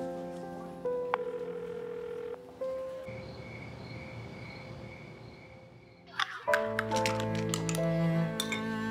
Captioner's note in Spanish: Timbre en la línea